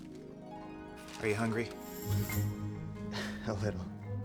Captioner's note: chuckles